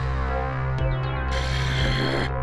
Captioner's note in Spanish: Gruñidos